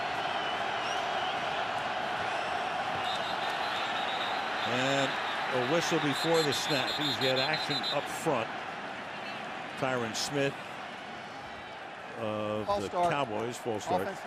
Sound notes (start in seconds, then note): 0.2 crowd cheering; 3.0 whistle